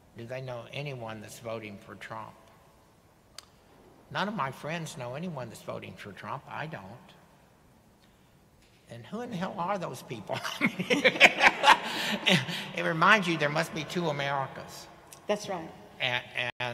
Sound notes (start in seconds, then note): 10.5 audience laughing